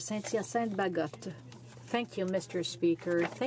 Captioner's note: speaking French